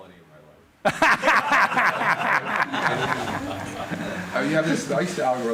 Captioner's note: laughter